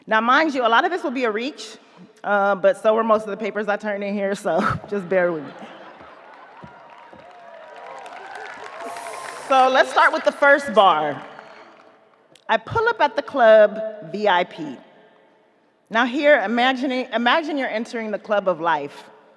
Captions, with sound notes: Now mind you, a lot of this will be a reach, but so were most of the papers I turned in here, so just bear with me. (audience laughing) (audience applauding) So let's start with the first bar: "I pull up at the club, VIP." Now here, imagine you're entering the club of life.